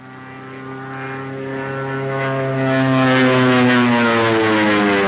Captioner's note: plane engine revs